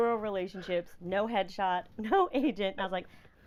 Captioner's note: laughing